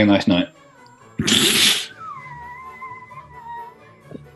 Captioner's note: sniggers